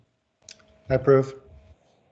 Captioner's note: pat